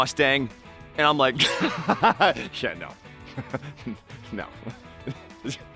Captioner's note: laughing